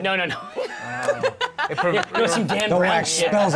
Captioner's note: laughter